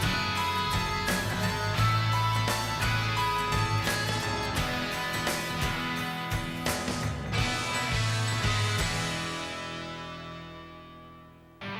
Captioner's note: applause